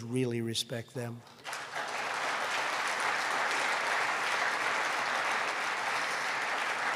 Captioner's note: applause